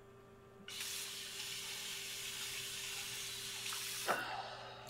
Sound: water hissing; sighing

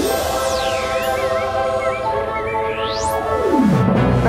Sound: birds chirping

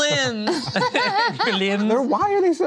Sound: laughter

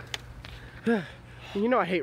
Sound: sigh of exhaustion

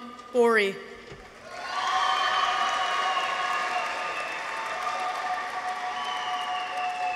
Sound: audience applauds; people cheer

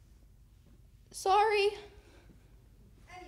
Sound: quietly

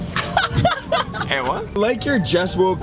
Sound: laughs

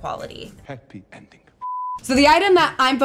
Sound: blooper beeps

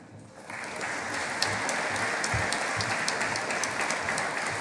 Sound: audience applauding

